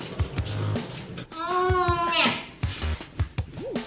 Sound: cheerful techno music; an groaning; cheerful techno music

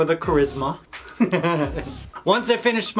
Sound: laughs

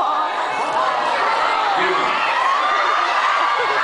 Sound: laughs

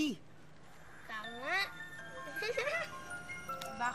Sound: giggles

